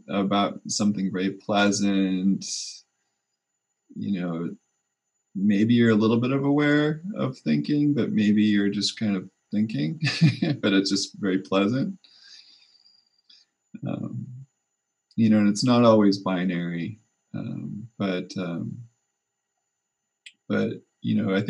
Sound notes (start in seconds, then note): 9.6 laughs